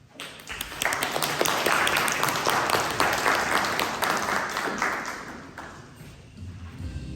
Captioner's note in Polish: głośne brawa